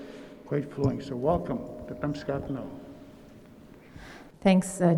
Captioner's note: speaking in Nêhiyawêwin